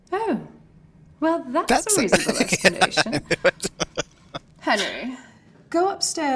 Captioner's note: laughing